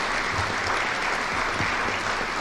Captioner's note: applause